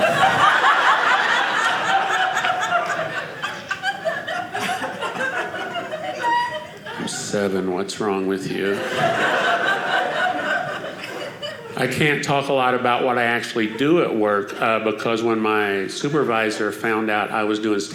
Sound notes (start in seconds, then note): 0.0 audience laughing; 8.6 audience laughing